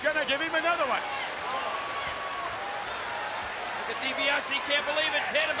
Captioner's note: applause